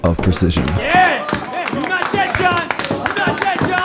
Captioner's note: audience cheering